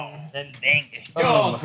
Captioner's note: speaking Spanish